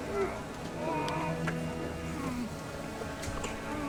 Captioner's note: men grunting and groaning